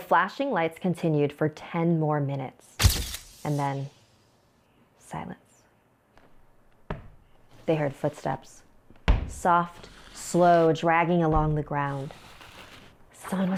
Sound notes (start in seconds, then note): 9.0 knocking; 13.3 whispering